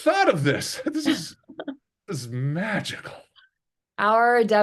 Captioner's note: laughing